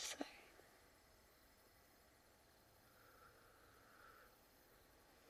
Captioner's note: insects chirping